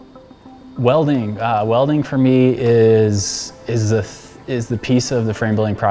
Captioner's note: talking